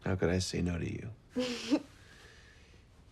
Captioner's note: laughs